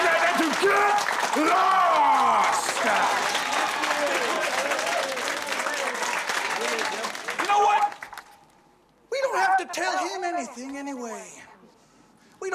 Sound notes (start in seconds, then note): 0.0 cheers and applause; 2.7 applause